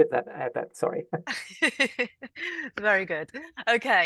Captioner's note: laughs